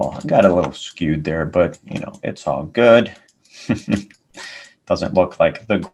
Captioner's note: laughs